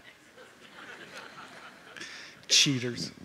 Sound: laughter

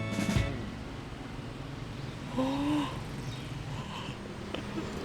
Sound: yawn

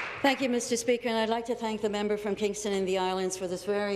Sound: applause

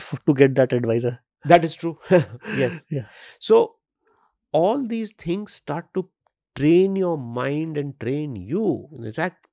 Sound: chuckles

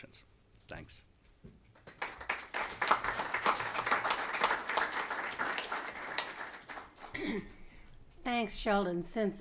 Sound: applause

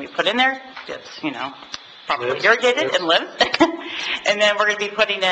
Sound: chuckles

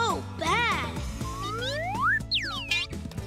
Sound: peeping

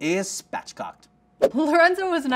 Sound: air whooshes

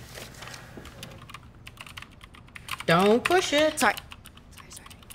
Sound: computer keys clacking

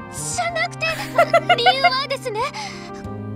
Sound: chuckles

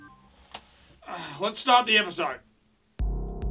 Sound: exhales

